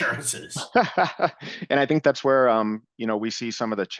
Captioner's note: laughs